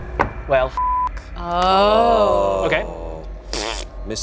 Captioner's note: beep